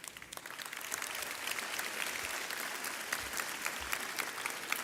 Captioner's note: audience clapping